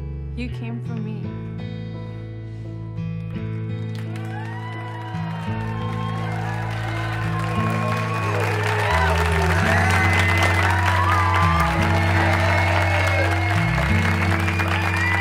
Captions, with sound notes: you came for me. (audience clapping) (audience cheering)